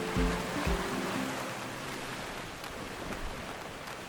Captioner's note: waves crashing